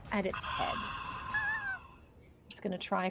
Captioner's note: squills faintly; exhales sharply